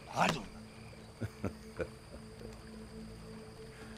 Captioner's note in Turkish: Gülme sesi